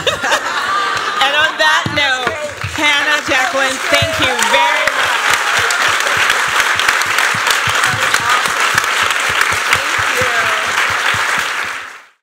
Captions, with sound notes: [laughter, cheers] And on that note, Hannah, Jacqueline, thank you very much. [applause]